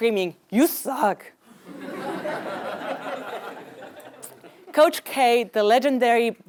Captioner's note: laugh